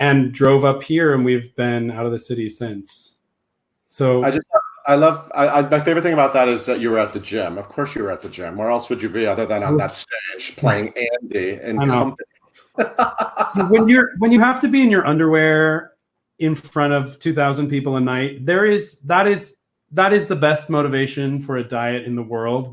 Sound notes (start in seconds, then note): 12.7 laughs